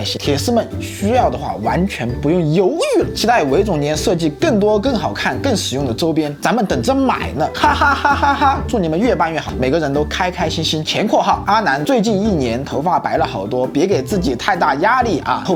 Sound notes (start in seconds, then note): 7.6 laughter